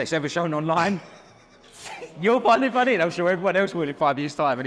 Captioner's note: both laugh